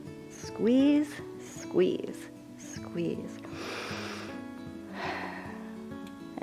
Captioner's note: inhales and exhales